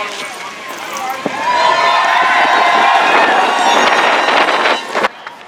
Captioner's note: cheers